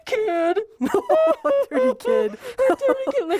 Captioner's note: laughing